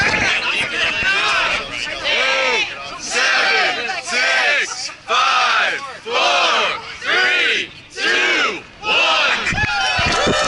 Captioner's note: cheering